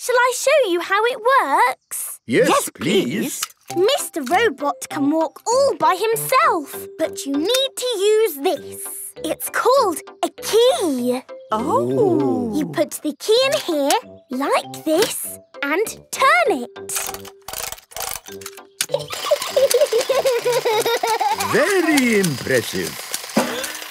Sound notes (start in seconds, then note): 18.9 giggling; 19.1 George laughing